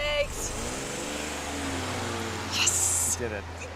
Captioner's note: vehicle accelerating